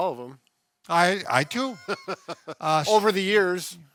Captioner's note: laughs